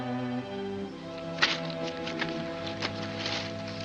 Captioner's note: paper crumples